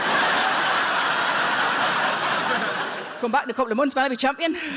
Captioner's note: audience laughing